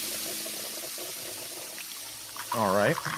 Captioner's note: liquid pouring